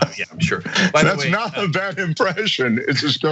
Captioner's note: laugh